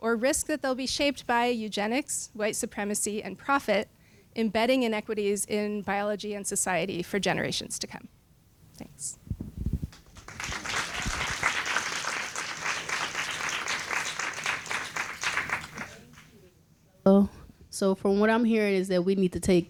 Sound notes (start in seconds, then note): 9.9 applause